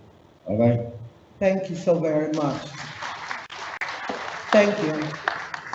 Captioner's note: audience applauds